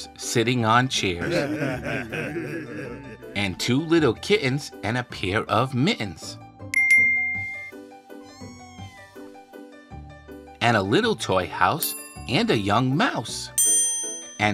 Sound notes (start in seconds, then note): 1.2 bears chuckling; 6.8 soft dinging